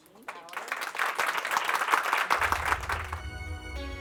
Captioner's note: applause